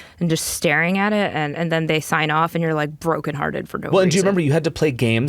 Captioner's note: none